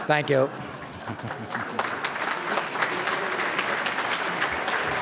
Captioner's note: audience claps